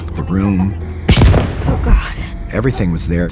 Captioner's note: gunshot